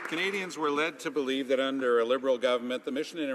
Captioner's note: some Applause